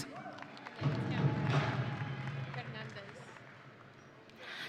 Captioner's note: audience cheering